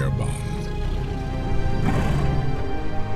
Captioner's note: both growl softly